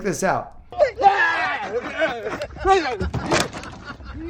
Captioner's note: golfer screaming